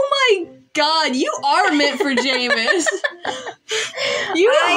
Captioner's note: laugh